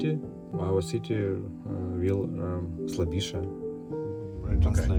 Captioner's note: in Ukrainian